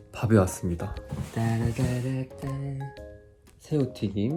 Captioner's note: humming